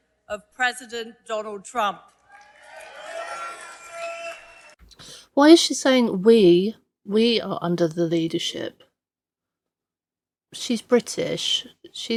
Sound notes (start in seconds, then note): 2.1 crowd cheering